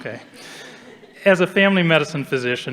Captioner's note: audience chuckling